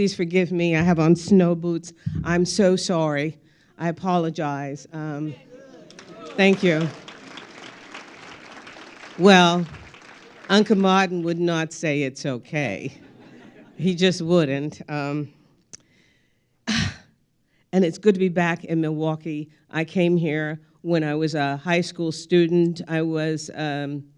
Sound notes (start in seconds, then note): 3.1 crowd applauding; 9.4 crowd laughing